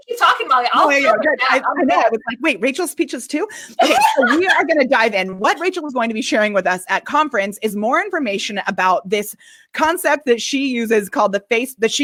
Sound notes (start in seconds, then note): 3.7 laughing